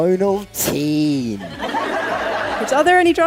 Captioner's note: audience laughs